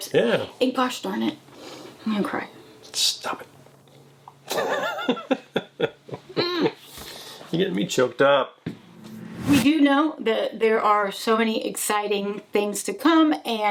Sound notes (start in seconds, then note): 4.3 laughs; 8.7 logo whooshing